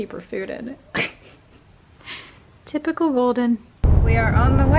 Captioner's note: laughs